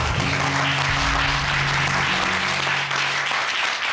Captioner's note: applause